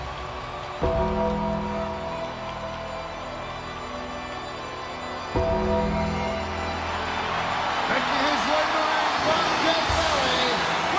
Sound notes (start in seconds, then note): 0.7 crowd cheering; 0.7 upbeat music continues